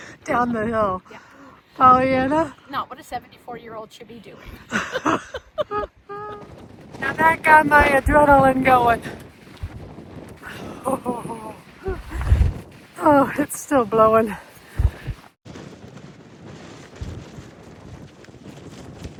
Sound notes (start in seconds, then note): 4.6 laughter; 11.0 laughter